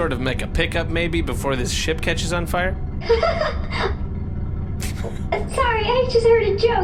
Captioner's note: laughs